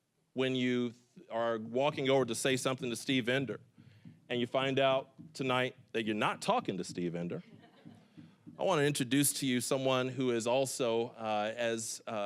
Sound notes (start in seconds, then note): 7.6 scattered chuckling